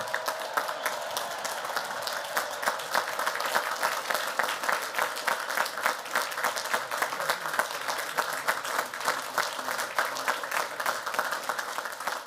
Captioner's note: applause